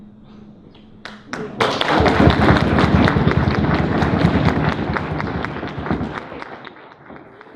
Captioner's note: audience applause